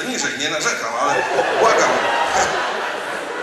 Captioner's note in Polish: śmiech